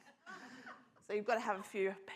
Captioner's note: scattered laughter